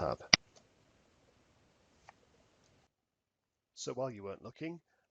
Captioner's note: mouse clicking